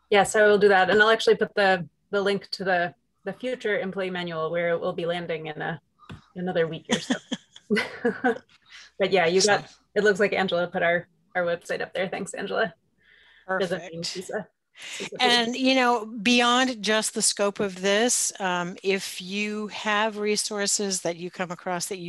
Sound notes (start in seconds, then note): 6.9 chuckling